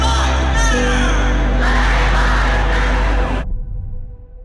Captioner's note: crowd